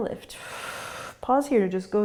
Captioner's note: exhaling